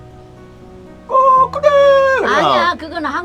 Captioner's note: mimicking chicken sound